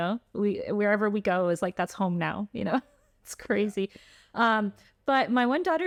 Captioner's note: laughter